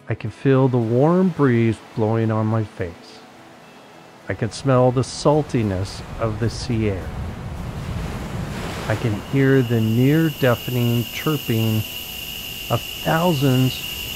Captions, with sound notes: I can feel the warm breeze blowing on my face. I can smell the saltiness of the sea air. (water gushing) I can hear the near deafening chirping of thousands,